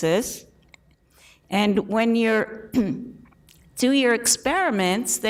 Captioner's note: clears throat